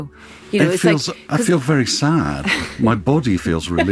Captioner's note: laughing